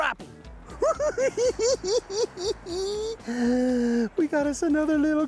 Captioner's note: cackling